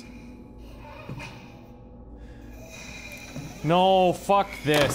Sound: creepy breathing

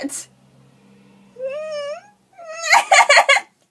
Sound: weirdest/cutest laugh I have ever heard

